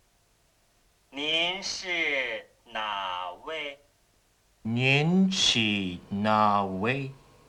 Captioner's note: speaking Chinese